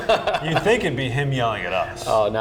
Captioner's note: laughing